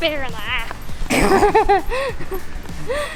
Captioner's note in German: Lachen